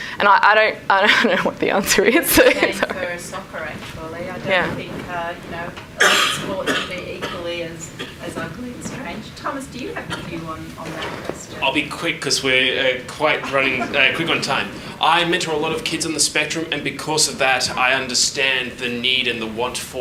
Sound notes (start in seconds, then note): 2.0 laughs; 2.3 speaks faintly